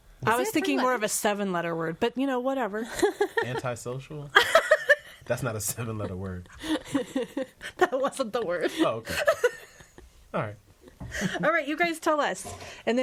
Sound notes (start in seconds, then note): 4.3 all laughing